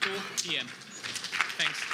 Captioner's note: applause